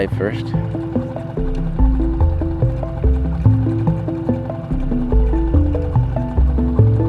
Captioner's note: boat engine droning; suspenseful music